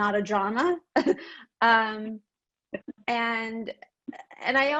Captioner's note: laughs